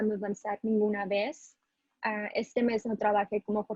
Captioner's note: speaking spanish